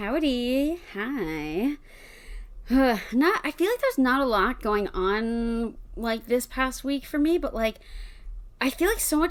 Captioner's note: sighs